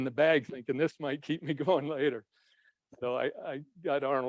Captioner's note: chuckles